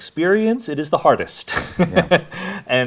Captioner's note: laughs